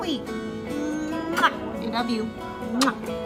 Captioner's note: kissing